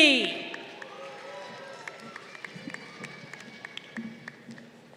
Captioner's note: crowd cheering